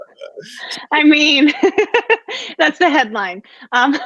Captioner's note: chuckles